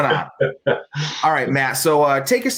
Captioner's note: laughter